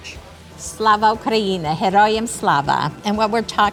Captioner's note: speaking in foreign language